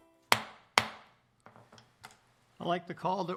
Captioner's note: gavel